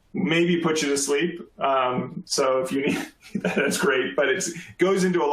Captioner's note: laughter